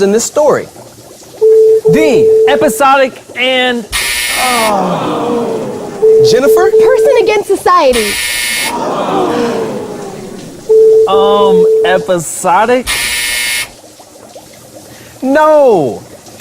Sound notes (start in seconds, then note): 0.9 buzzer sound; 3.2 error buzzer sound; 6.0 buzzer sounds; 6.0 error buzzer sound; 10.6 buzzer sounds; 13.3 error buzzer sound